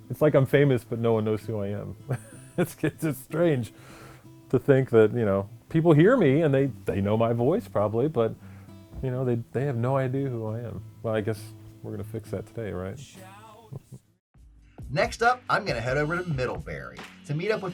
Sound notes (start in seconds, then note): 2.1 laughs